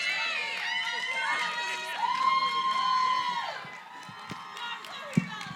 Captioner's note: cheering, applause